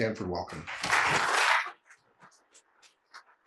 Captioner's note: applause